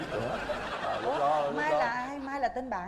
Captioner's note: laughing